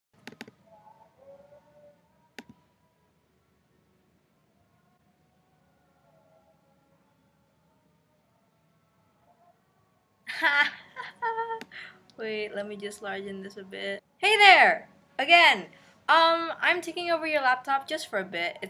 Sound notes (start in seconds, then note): 10.3 laughter